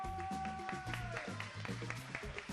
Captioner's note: people clapping